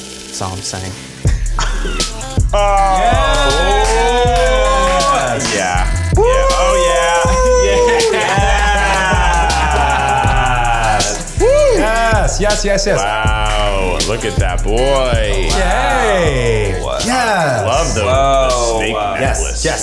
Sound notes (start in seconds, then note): 1.2 upbeat music; 7.1 group cheers